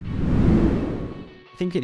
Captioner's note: air whooshing